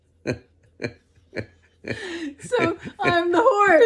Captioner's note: both laugh